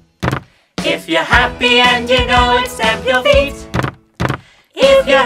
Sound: stamp stamp; stamp stamp

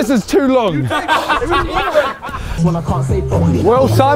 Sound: men laughing

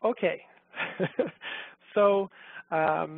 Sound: laughs

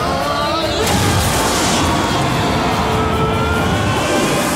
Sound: both yelling

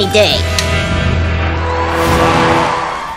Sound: cheering

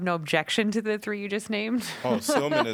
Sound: laughter

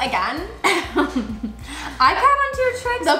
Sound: laughs

